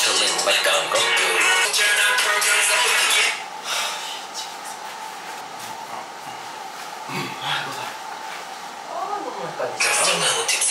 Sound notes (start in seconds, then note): 3.6 sigh